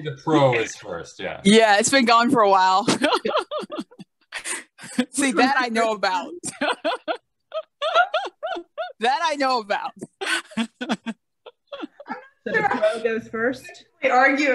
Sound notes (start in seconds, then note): 2.8 laughing